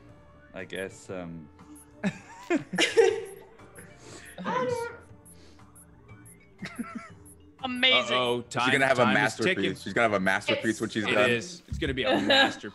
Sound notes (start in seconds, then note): 3.7 laugh